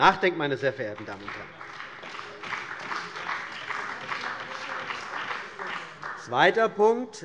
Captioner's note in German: Beifall bei der CDU und dem BÜNDNIS 90/DIE GRÜNEN